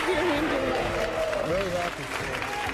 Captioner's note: audience cheering and clapping